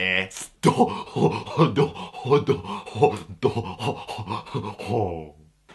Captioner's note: excited idiot noises